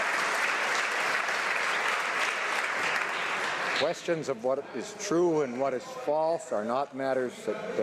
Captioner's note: some Applause